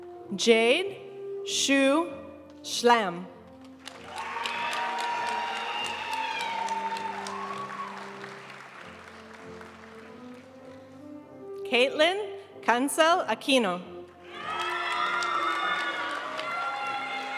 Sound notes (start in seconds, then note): 3.8 audience cheering and applauding; 7.4 graduation music; 14.3 audience cheering and applauding